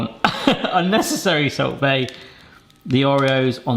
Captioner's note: laughs